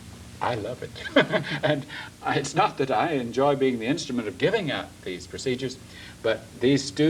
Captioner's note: laughs